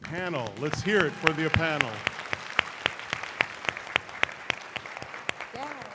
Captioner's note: applause